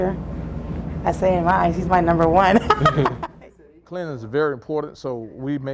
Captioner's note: laughing